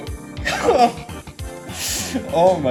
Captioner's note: honks